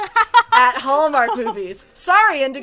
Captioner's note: laughs